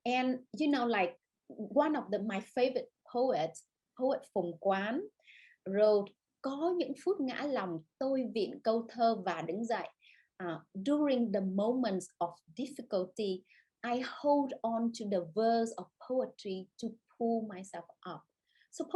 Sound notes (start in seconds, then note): 6.9 speaks Vietnamese